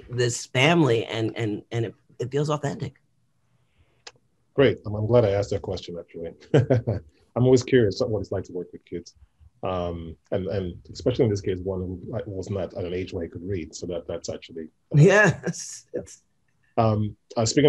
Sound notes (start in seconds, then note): 4.6 laughs; 15.9 laughs